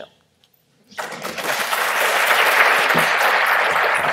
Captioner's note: applause